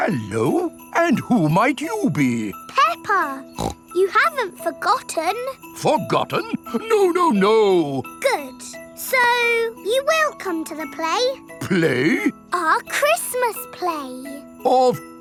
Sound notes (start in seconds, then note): 3.5 snorts